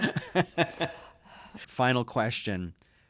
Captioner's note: laughing